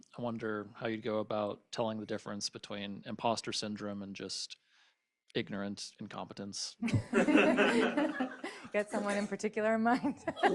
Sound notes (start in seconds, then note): 6.8 laughter